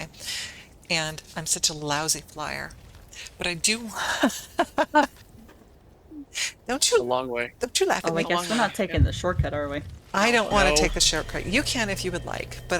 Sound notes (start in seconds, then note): 4.2 laughter